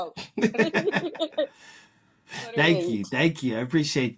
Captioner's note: laughing